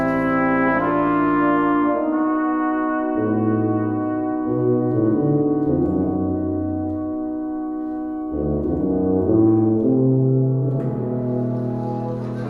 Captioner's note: transition noise